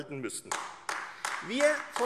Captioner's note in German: Beifall AfD